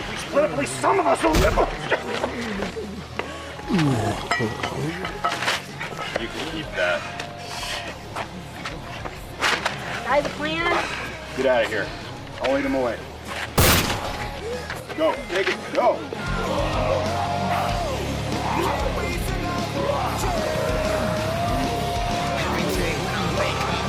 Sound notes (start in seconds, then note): 13.6 gun shot; 16.2 hard rock music